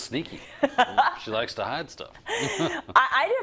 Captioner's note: laugh